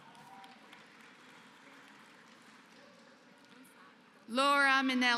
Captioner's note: applause